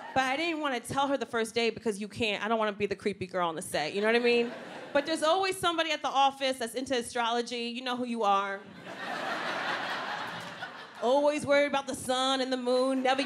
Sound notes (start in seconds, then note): 4.1 audience laughs; 8.7 audience laughs